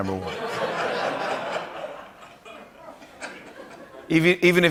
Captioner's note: laughter